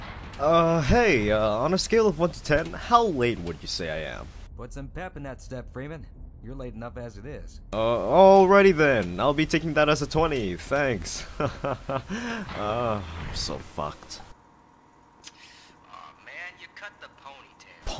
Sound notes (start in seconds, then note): 11.2 nervous laughter